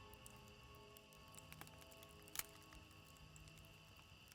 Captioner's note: fire crackling